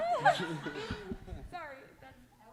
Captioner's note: laughter